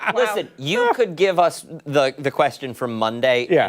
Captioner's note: laughter